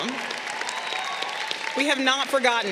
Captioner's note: crowd cheering